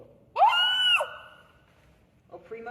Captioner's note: shouts of terror